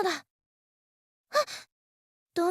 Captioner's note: gasp